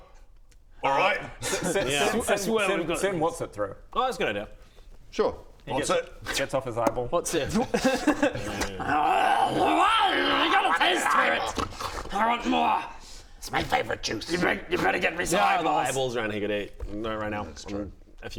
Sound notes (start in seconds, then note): 6.9 pop!; 8.4 slurp